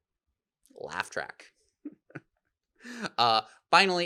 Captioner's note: laughs